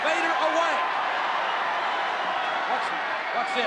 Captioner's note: audience cheers